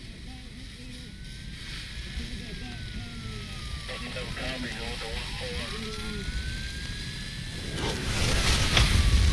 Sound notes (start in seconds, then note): 5.7 sirens